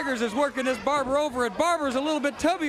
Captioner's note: crowd cheering